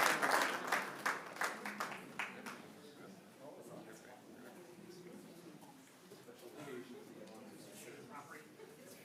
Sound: applause

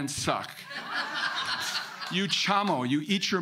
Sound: audience laughing

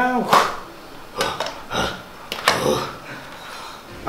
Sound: Bane grunts

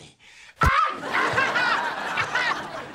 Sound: screaming

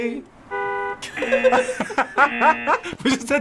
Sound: horn honks; both laugh

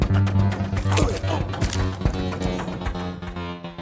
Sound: groaning; neck snaps

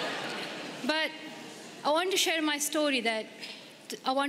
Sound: laughter

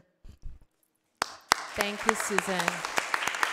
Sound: audience applause

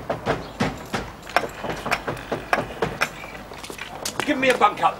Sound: clock ticking; knocking at door

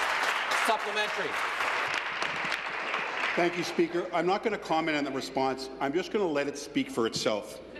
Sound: some Applause

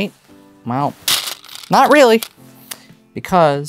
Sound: stones rattling

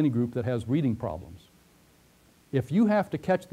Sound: pause

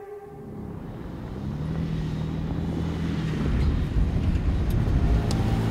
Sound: vehicle engine roaring

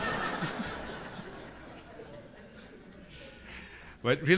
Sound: laughter

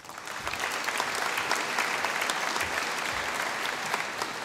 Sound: audience applauding

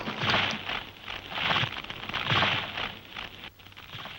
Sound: wood cracking

